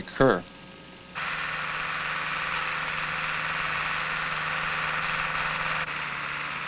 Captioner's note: machine whirring